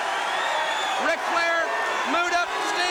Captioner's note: crowd cheering